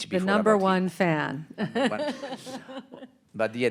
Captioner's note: laughing